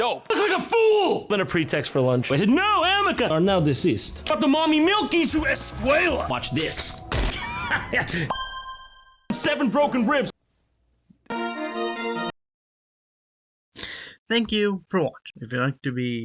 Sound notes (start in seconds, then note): 7.2 laughter and a knife